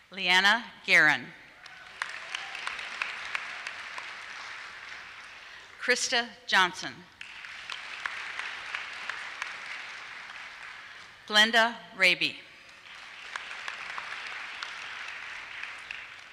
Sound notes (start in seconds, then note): 1.5 applause; 7.1 applause